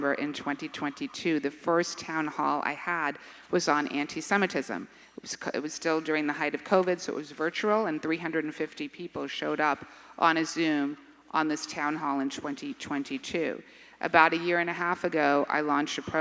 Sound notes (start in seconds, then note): none